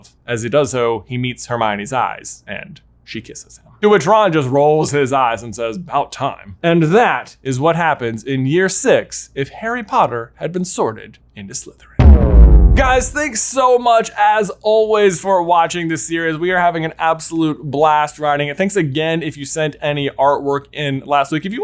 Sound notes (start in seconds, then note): 12.0 electronic reverberation